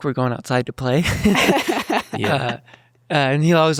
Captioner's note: laughs happily